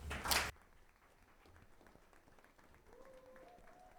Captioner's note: audience applauding